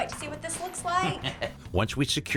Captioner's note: chuckles